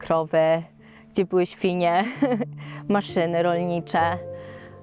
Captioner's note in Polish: śmiech